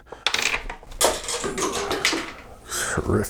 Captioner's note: clanking